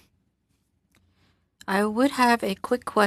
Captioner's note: speaking French